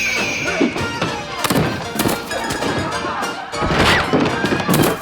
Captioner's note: all shouting inside